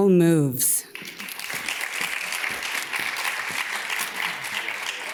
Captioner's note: audience claps